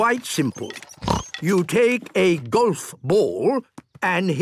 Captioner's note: snort